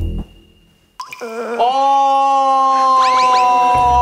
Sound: crying

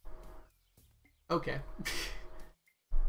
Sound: laughs

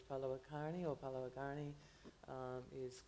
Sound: foreign language

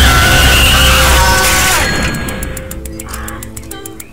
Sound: crash!

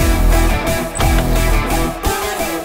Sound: door opens

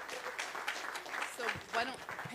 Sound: applause

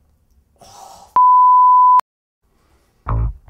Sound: beeep

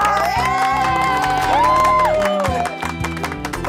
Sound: cheering and applauding

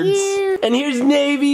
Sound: child babbling

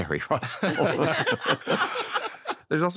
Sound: laughter

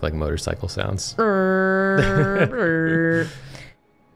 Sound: revving sounds

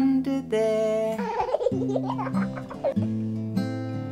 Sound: giggles

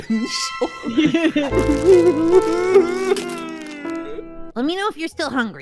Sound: Loop sobbing

